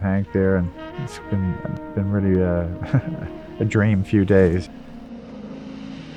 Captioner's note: chuckles